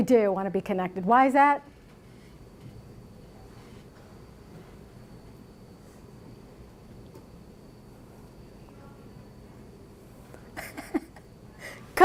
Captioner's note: laughs